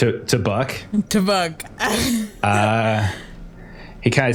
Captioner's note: laughs